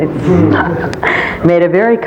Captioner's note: laughter